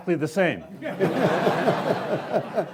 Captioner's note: laughing